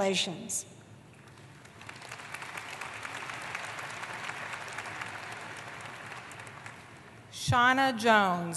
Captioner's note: applause